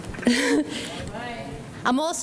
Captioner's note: laughs